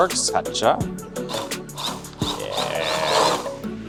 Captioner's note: blender buzzes